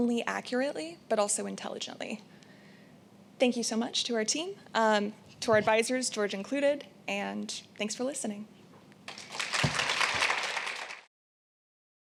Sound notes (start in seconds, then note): 9.0 applause